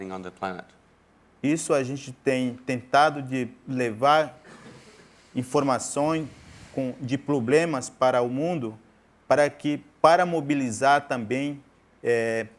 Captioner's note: speaking in portuguese